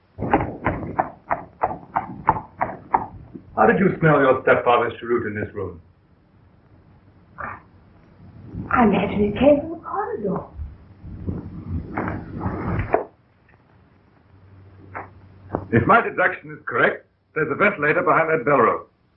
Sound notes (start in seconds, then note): 11.1 pounding